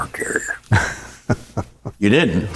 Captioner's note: chuckling